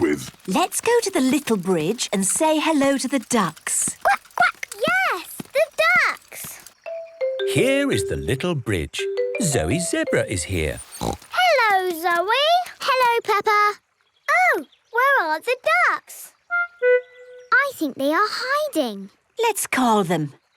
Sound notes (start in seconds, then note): 10.8 snorts